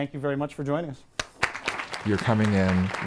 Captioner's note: applause